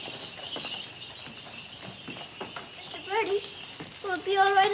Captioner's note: none